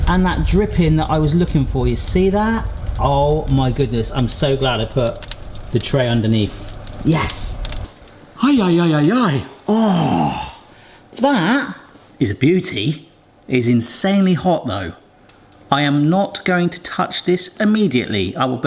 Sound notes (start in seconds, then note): 9.6 groans